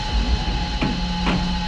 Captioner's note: car door slamming